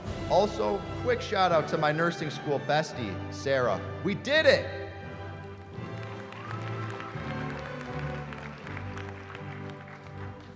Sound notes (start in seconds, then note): 5.3 applause